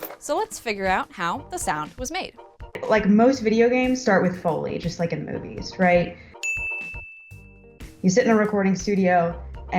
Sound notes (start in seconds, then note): 6.4 ding